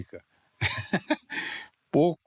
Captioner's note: laugh